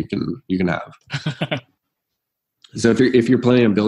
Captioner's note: laughing